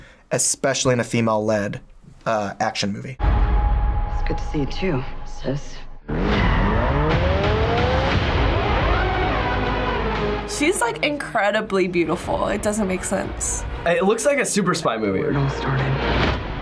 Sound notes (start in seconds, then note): 5.8 dramatic music; 6.1 wheels screeching